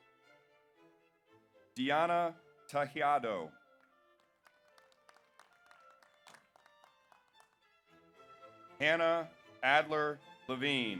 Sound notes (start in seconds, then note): 4.2 audience applauds